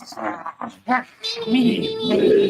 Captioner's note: grumbling